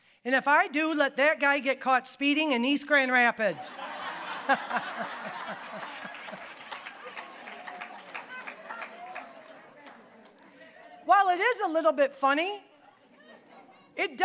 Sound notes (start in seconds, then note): 3.6 audience laughing; 4.1 applause